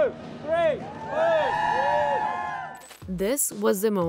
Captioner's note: crowd cheering